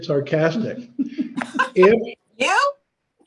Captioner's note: laughs lightly